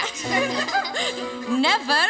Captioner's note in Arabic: اطفال يضحكون